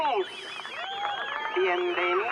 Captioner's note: cheering people